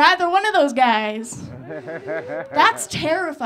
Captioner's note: audience laughing